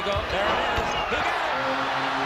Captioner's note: crowd roars